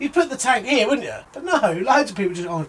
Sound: laughs

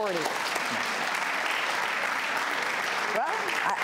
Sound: audience clapping

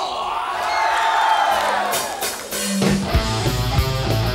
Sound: audience cheers

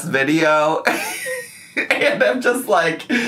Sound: laughs

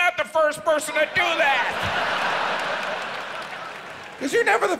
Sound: audience laughs

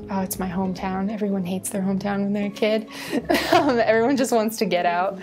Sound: laughs

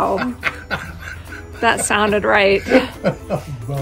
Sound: laughing

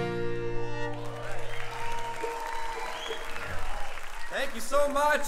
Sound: audience cheering and applauding

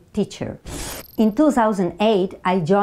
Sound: graphics whoosh

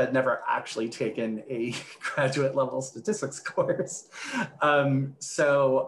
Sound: laughs

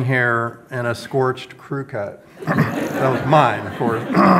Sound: audience laughs

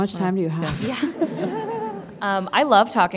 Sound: laughing

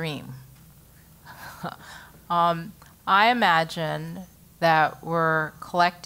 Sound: laugh

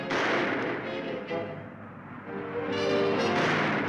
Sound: guns firing

